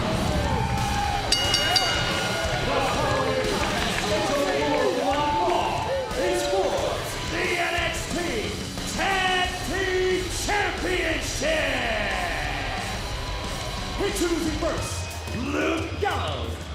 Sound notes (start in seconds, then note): 1.3 bell rings